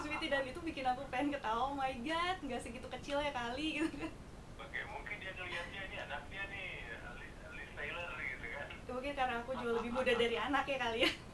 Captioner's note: laughing